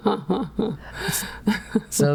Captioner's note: laughing